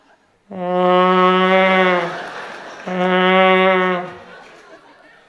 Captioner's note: sound of a vuvuzela